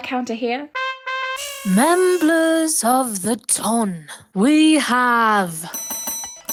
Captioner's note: horn honking; bells ringing